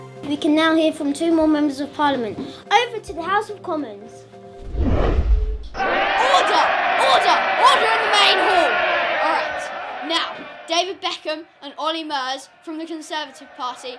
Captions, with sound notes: We can now hear from two more members of Parliament. Over to the House of Commons! (MPs cheering) Order, order, order in the main hall! Alright, now, David Beckham and Olly Murs from the Conservative Party